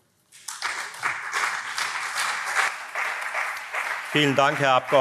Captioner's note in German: Beifall SPD und CDU